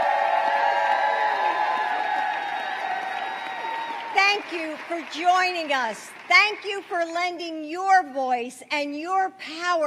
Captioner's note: applause